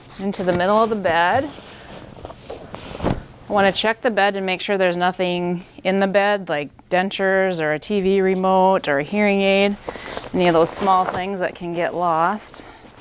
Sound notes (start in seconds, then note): 1.7 sheets rustling